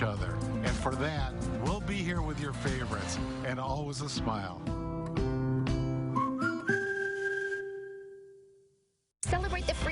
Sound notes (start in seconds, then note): 8.0 Culver's whistle